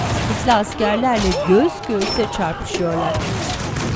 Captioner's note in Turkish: Müzik - Gerilim; Silah sesleri; Dövüş sesleri; Silah sesleri